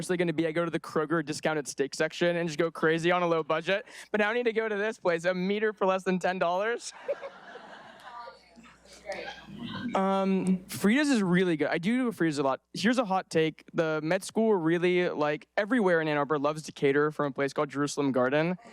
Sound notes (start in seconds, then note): 6.9 audience laughing